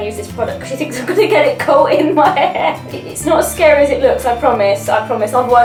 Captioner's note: laughs